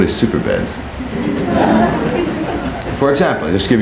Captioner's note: people laughing